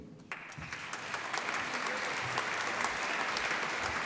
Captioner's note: applause